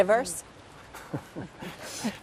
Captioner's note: laugh